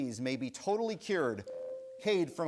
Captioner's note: bell rings